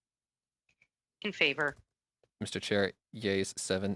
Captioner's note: speaking French